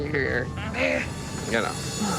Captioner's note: grunting